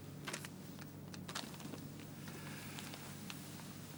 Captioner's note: paper rustles